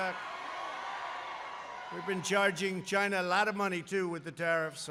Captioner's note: applause